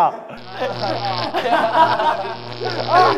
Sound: electricity

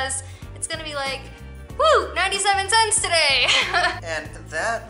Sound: laughter

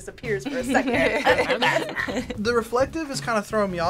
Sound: both laugh

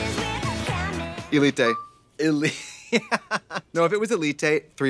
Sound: giggles

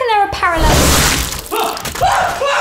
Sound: explosion

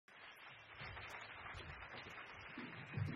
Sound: crowd claps; drum music

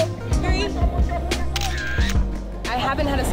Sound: camera shutter

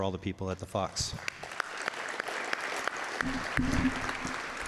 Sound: claps

